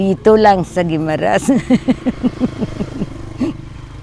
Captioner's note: laughs